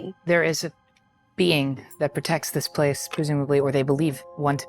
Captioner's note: none